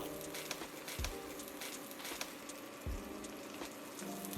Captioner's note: sizzling